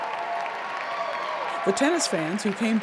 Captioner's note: audience cheering